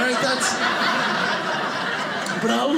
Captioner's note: audience laughing